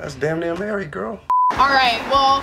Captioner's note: high pitched beep